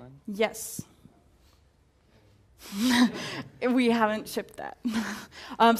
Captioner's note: laugh